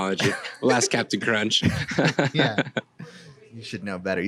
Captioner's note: laughs